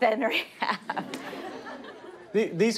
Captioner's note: laughter